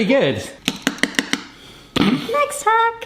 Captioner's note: tapping noise